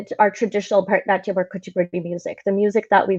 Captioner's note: mumbles in Hindi